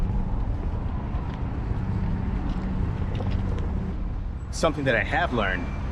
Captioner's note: street noise